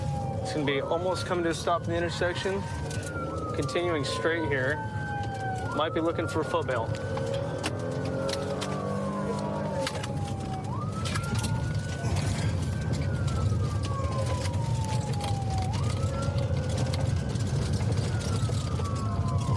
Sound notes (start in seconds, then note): 11.5 siren wailing